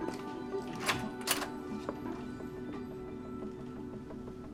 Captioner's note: door handle clicks